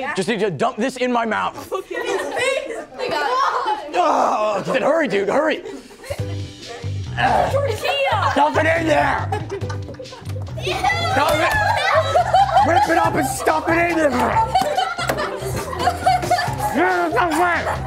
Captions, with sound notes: Just need you to dunk this in my mouth. Oh, my God. Hurry, dude, hurry! [coughing] Dump it in there! - Eww! - Dunk it! Rip it up and stuff it in there! [laughing] Gimme some bread!